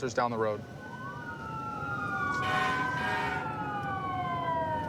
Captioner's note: emt sirens blaring